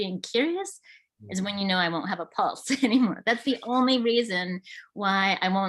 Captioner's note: laughs